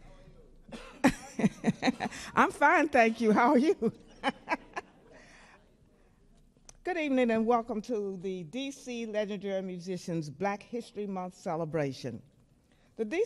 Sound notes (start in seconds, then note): 1.2 chuckles; 3.8 laughs